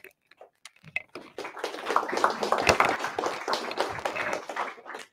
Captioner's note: audience applauding